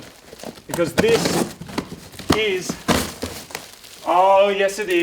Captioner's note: cardboard ripping